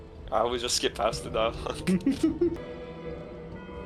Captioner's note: laughing